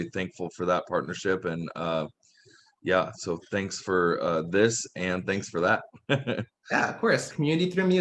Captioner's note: laughs